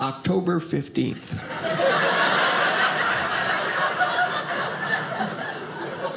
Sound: audience laughing

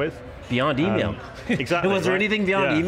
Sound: chuckles

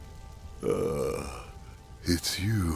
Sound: groans

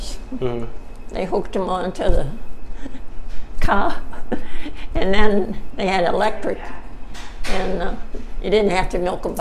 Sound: chuckling

